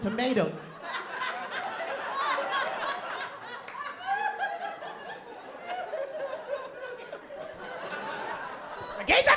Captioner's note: laughter